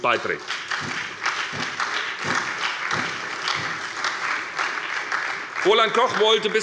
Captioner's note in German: Beifall bei der SPD und bei Abgeordneten der FDP